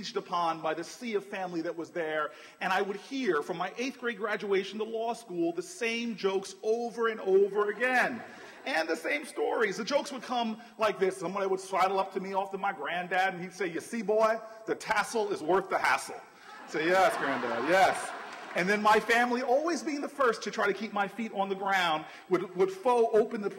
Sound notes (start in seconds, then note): 16.6 laughter